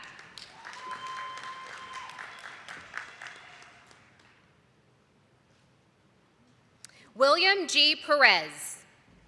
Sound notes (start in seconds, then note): 0.0 attendees clapping